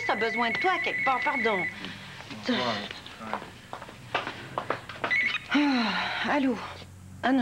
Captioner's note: Le téléphone sonne